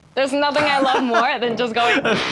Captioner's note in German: Gelächter